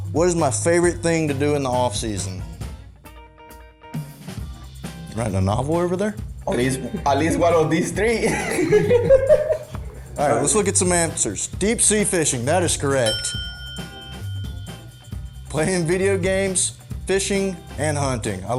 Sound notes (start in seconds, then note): 9.6 laughs; 13.0 ding